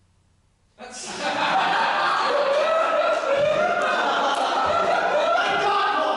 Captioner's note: audience laughter